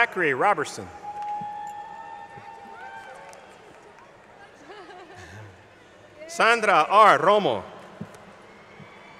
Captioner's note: laughter